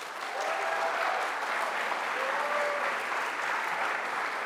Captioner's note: audience applauds